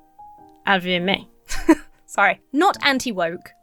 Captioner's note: chuckles